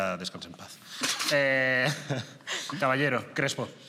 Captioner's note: they laugh